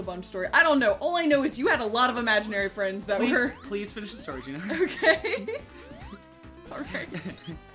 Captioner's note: laughing